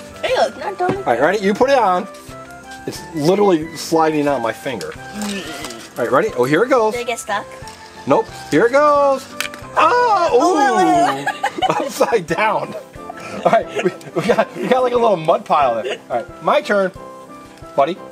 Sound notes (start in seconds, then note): 9.7 Mr. Engineer cheers